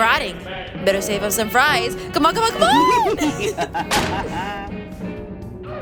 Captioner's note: Jacqueline laughs